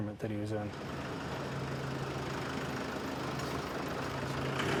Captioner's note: egine hums